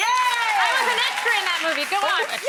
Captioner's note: bell dings